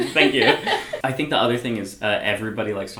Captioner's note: both laugh